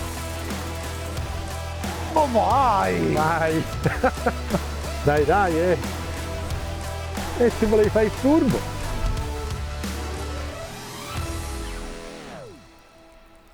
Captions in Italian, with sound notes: Ma vai, vai, [risate] dai, dai. Eh, e volevi fare il furbo.